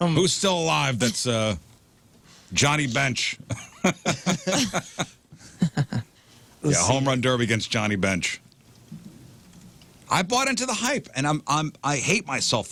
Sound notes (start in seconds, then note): 3.5 laughing